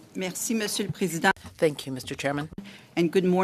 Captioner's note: speaking french